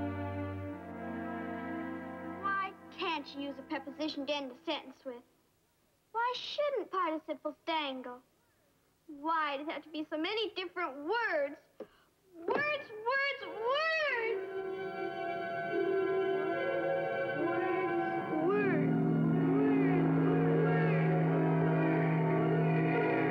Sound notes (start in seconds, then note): 15.6 echoing